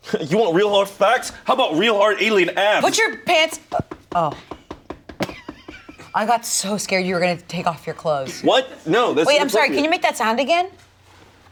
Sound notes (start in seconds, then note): 3.8 abs thumping